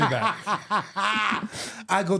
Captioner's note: laughing